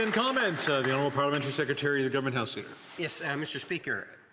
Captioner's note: applause